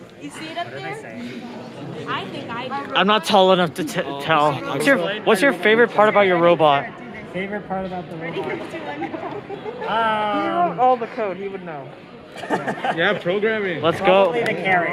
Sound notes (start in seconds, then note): 12.3 laughter